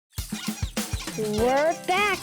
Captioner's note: upbeat music; squeaking